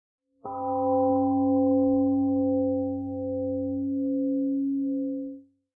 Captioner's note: temple gong rings and fades 🎵